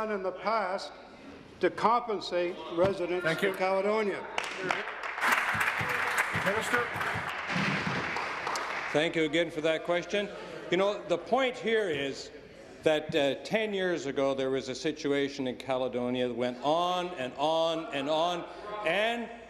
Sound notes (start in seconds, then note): 8.7 applause